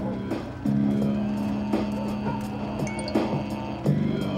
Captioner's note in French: rap; son de cellulaire